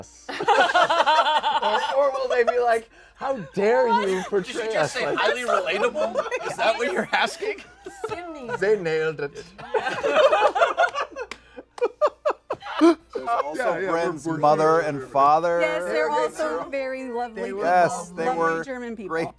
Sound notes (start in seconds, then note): 0.2 laughter; 9.1 German accent; 12.3 laughter